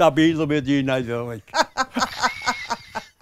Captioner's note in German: Lachen